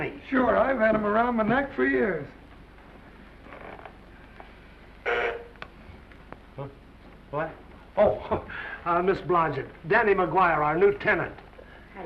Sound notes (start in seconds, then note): 5.0 buzzer honks